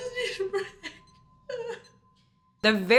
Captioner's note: sobbing